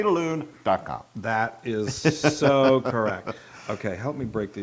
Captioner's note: laugh